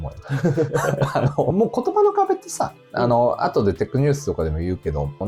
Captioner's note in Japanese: 笑い